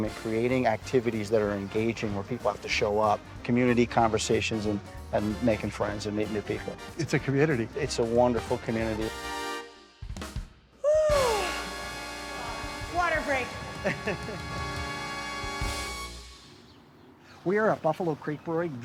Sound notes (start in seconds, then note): 9.2 lively music; 13.6 laughing; 13.9 dramatic music